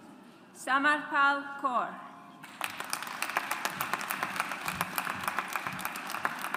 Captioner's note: audience applauds